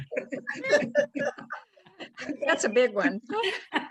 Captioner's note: laughter